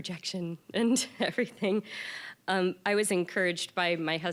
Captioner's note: chuckling